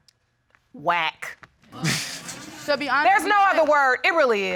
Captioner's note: all laughing